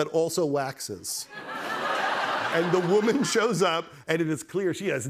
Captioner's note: laughter